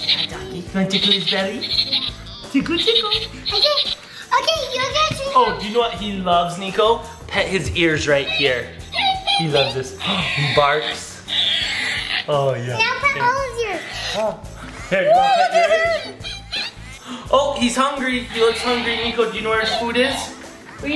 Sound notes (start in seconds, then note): 9.9 balloon sounds; 14.6 screaming; 16.7 balloon sounds